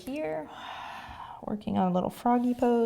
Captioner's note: exhaling